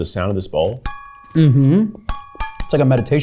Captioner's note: ding reverberates